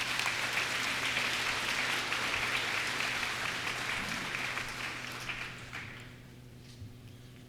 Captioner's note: applause